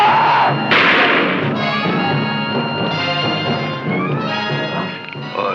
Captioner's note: thief screams; music intensifies; shot firing